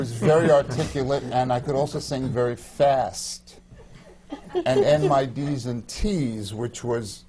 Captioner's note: laughter